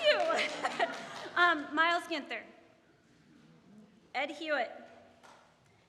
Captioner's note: audience laughing